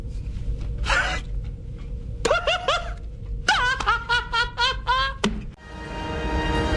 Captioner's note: laughing